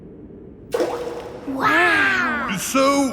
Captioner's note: rock plops